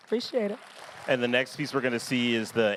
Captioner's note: applause